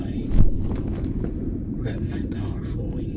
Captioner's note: wing noise